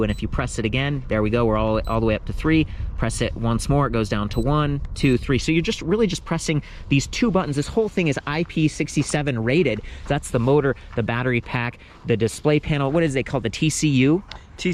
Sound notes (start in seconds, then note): none